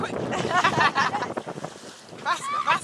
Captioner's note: laughter